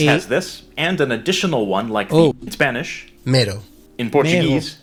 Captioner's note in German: spanisch